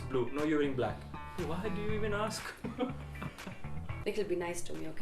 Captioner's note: laughs